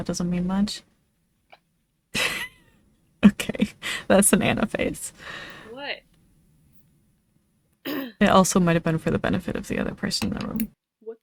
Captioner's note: clears throat